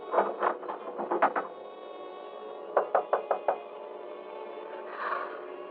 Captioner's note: knocking Continues